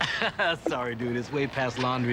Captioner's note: laughing